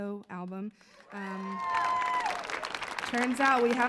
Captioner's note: audience cheering